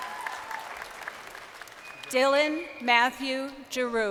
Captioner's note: crowd cheering